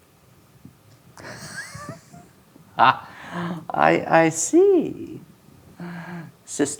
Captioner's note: laughing